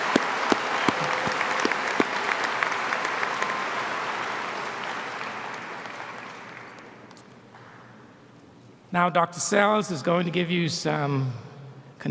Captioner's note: applause